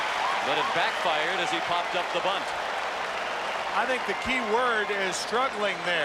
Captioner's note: cheering and Applause